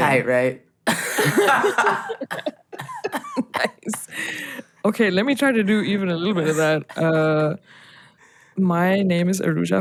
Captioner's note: laughter